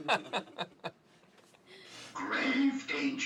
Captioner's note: laughing